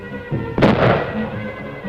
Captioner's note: suspenseful music; explosion